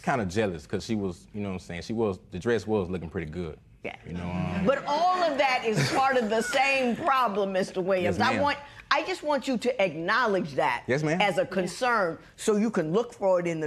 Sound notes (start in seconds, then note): 5.2 laughter